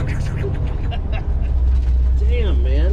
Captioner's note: makes tires screeching noise